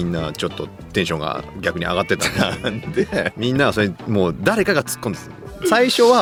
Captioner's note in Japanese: 笑い